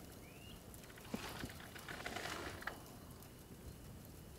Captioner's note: flame crackles